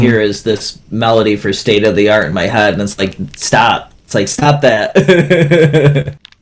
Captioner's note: laughs